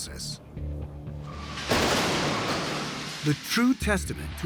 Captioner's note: crash